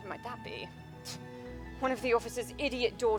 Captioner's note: scoffs